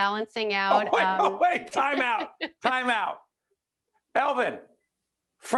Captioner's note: laughing